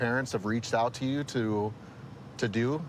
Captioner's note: none